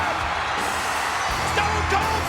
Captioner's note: audience cheers; upbeat music